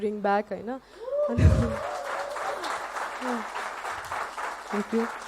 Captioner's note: applaud…